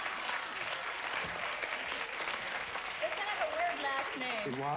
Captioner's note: audience laughing; audience applauding